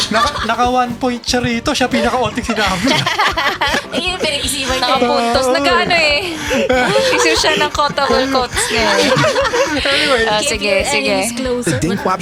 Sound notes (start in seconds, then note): 6.2 laughter